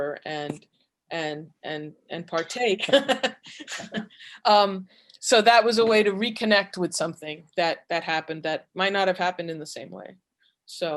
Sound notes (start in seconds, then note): 2.9 chuckles